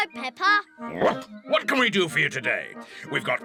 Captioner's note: barks